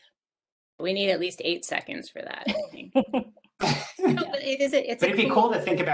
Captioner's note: laughing